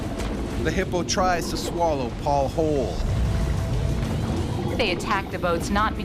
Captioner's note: voiceover